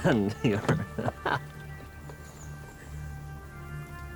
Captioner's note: laughs